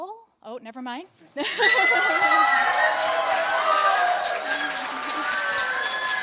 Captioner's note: applause